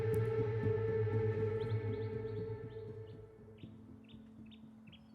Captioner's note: birds chirping